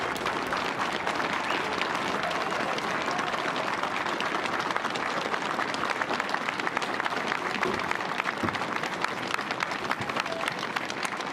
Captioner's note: applause